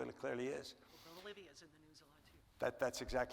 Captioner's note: lady speaks off the microphone